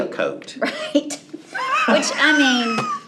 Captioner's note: both laugh